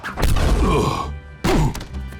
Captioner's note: whooshing; grunting